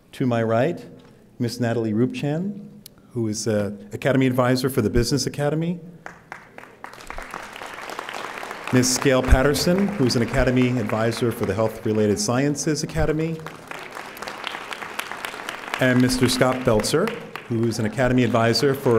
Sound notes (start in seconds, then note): 6.0 audience applauding